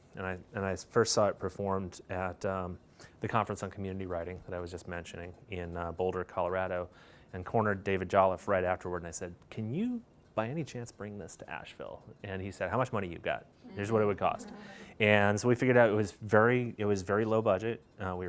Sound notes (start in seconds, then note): 14.7 laughter